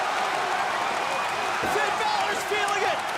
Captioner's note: crowd cheering